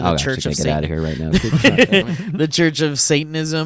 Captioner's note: laughts